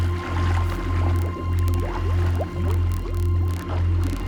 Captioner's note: dolphins clicking